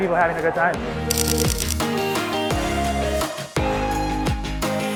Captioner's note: camera clicking